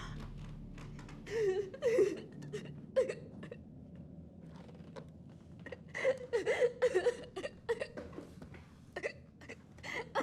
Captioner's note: crying